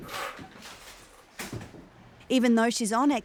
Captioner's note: chair scrapes on floor